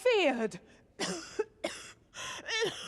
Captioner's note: coughing